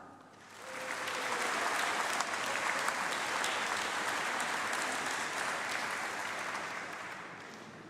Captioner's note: applause